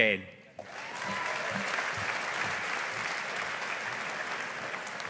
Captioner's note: audience applauding